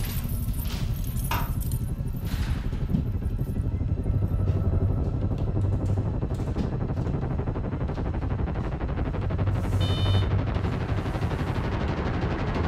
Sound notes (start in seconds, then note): 2.1 lights clacking; 9.4 equipment beeps